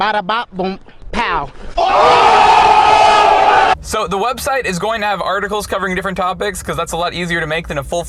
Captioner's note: cheering